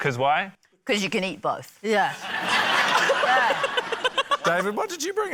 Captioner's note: laughter